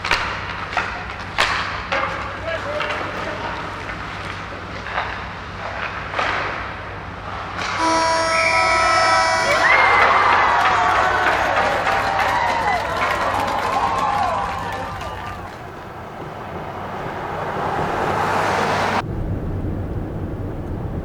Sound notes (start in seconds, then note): 0.0 hockey sticks continue clattering; 7.7 horn blows; 9.6 audience cheering; 16.6 truck engine revving